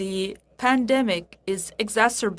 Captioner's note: speaking French